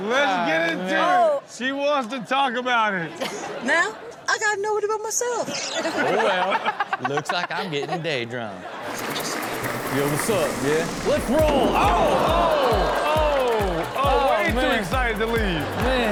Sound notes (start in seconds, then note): 5.5 all laughing; 12.4 audience exclaims